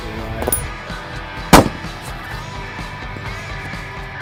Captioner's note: gun Shot